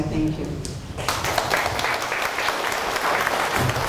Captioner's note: applause